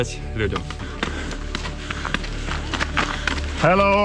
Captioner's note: heavy breathing, footsteps